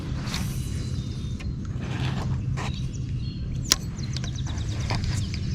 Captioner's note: rod whooshing and birds chirping